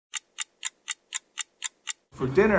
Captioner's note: clock ticking